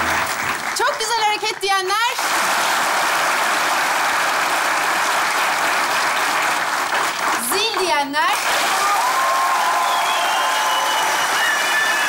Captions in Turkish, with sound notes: -Çok güzel hareket diyenler? (Alkış sesleri) Zil diyenler? (Alkış ve ıslık sesleri)